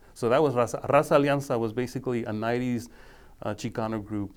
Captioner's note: speaking foreign language